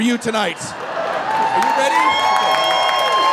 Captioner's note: audience cheering